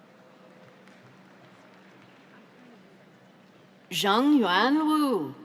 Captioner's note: audience applauds